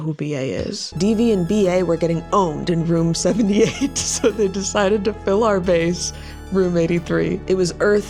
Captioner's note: laughs